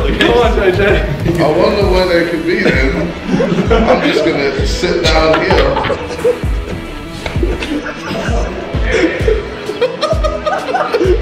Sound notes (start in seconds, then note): 8.8 laughter